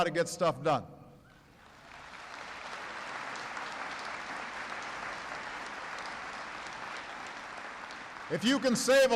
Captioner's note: applause